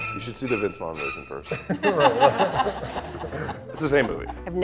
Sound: laughs

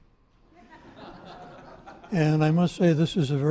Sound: audience laughing

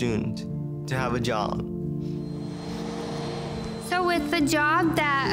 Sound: vacuum cleaner whirring

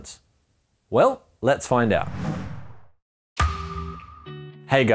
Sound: whooshing

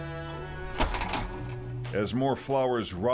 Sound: door latching

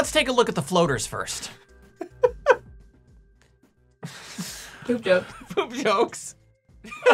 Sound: laughing

